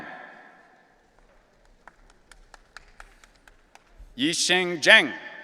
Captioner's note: audience applauding